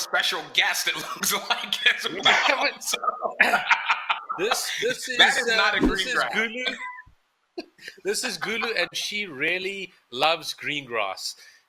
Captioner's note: laughing